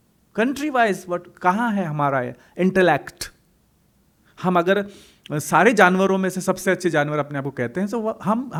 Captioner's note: hindi